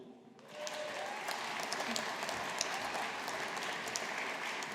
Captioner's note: audience applauding